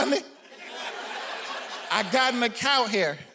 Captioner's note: audience laughing